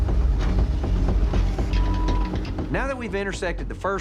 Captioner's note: beeping